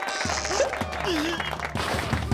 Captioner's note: whimper; groan